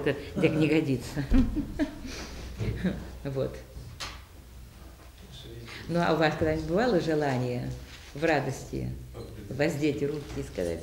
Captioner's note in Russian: смеется